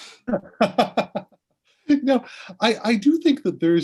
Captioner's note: laughing